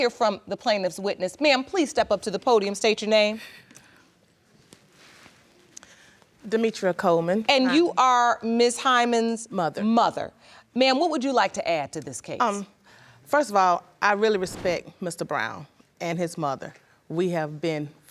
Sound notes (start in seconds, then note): none